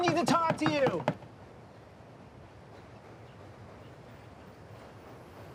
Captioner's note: door knocking